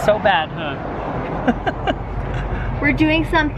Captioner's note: chuckles